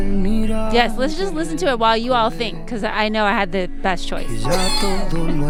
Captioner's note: laughter